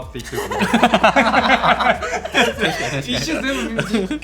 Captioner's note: laughs